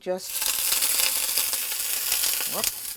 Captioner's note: sizzling